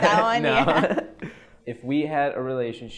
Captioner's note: laughs